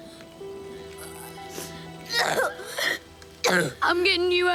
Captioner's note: groaning and coughing